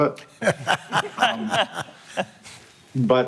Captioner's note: laughter